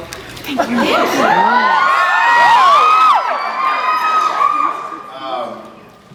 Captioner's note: cheers